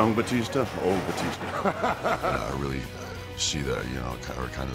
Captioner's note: laugh